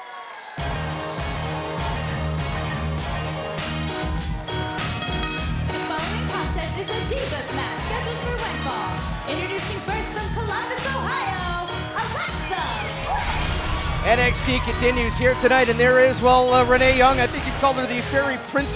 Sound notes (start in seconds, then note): 4.4 bell ringing